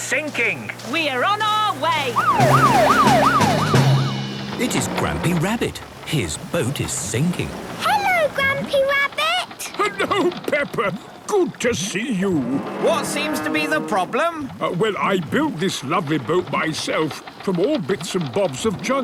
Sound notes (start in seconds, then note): 1.8 siren wailing